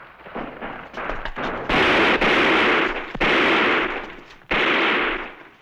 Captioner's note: gunfire